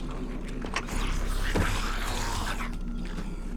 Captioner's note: grumbling